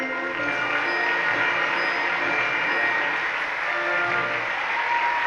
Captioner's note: audience applauding